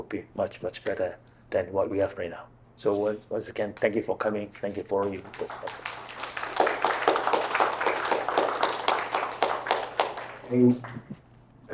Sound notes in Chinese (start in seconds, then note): 6.4 掌聲